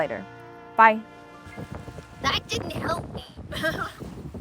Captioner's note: laughing